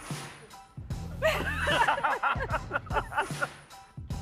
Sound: both laugh

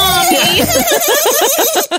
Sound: laugh

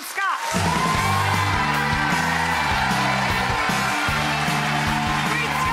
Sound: audience applauds and cheers

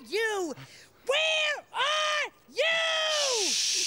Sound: yelling

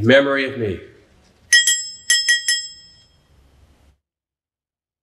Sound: bell dings

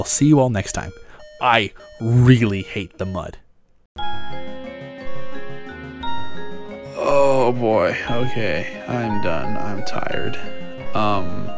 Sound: alarm

